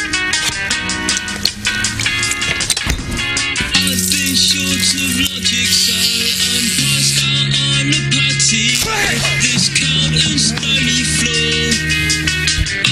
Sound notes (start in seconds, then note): 3.8 razor noises; 8.8 yells in pain